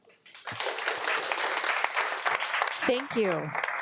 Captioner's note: audience applauding